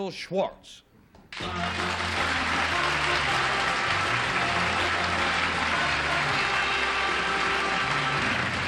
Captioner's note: applause